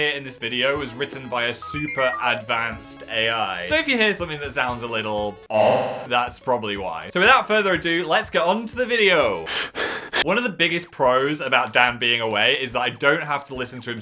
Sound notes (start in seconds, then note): 9.5 speaker 1 panting